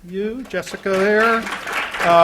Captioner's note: applause